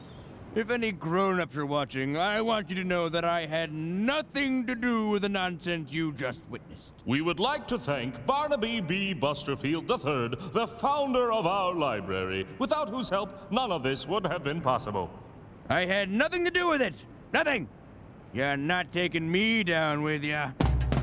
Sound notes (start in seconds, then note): none